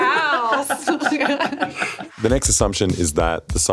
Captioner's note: laughs